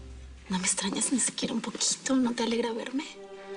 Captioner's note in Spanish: En voz baja